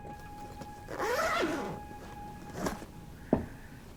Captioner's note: bag unzips